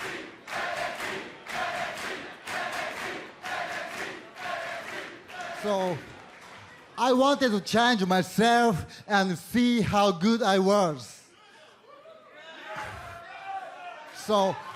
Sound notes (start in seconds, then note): 4.0 fans chanting